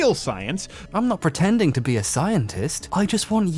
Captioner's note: voiceover, imitating